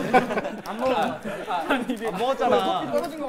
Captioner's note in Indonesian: Hahahahahaha?